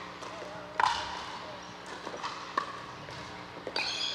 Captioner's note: ball bouncing